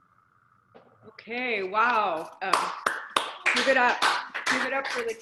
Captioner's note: applauding